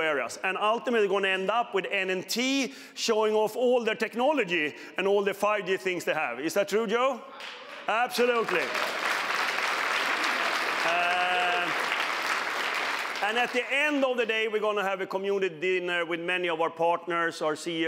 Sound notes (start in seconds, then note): 9.9 applause